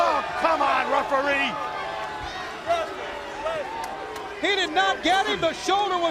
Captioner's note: crowd chatter